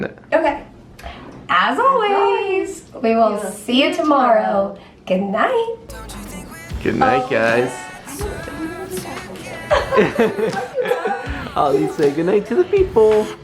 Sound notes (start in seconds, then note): 9.6 laughter